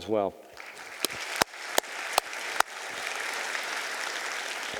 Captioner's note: audience applauding